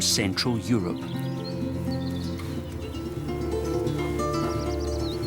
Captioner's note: birds twittering